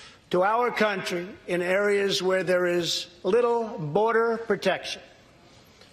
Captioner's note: none